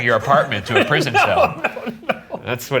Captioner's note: laughs